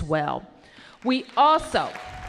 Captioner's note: applause